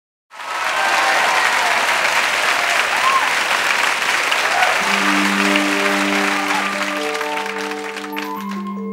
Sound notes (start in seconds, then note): 0.3 crowd cheering; 4.7 soothing music